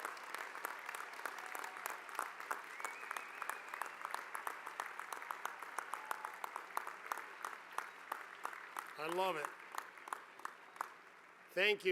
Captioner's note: applause